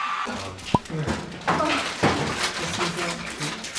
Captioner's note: sip